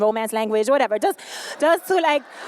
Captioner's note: laughter